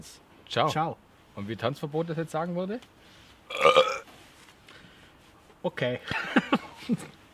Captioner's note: burp